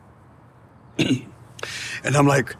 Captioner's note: clears throat